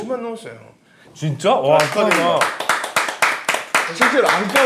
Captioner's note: belated applause